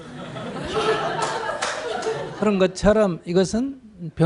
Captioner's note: audience Laughter